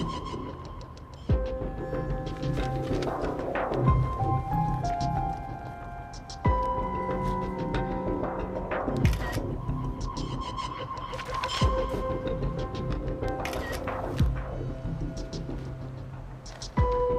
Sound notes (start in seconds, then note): 5.2 tense music continues; 9.1 camera shutter clicking